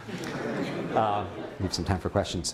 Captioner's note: laughter